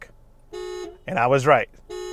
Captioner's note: car honks